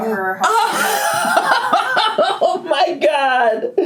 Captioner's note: laughing